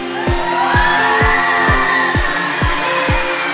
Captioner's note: cheering